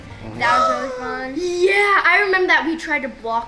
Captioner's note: gasping loudly